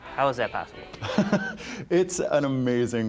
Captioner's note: laughing